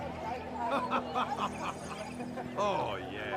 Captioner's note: laughs